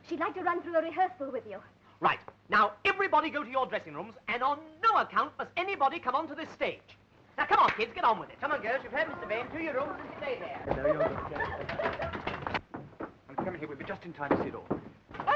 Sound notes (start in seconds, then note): 12.2 giggling